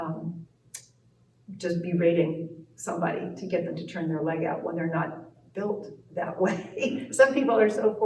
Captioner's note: laughs